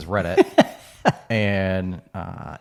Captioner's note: laughing